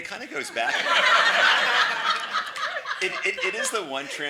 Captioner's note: everyone laughs